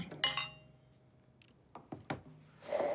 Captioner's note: glass clinking